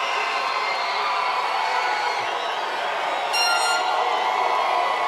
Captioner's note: cheering